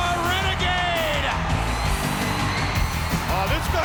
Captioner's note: crowd cheering